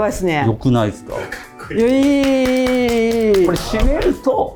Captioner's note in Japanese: 大歓声